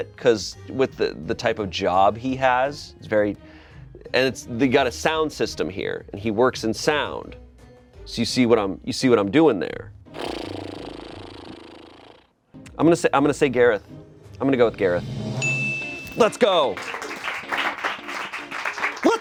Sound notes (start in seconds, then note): 15.4 bell dings; 17.7 friends clap